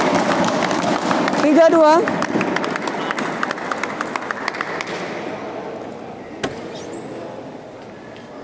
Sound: applause

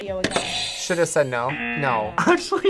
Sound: buzzer; buzzer rings

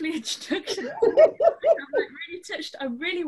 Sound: laughs

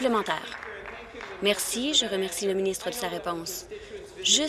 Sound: applause

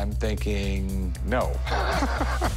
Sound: laughs

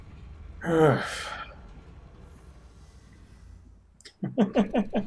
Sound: sighing; chuckles

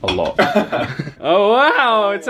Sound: laughs

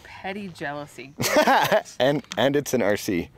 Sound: laughing

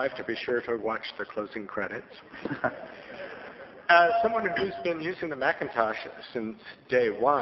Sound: soft laughter

